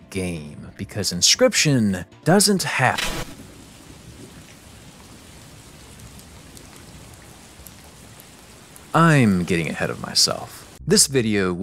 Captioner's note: sounds of rain falling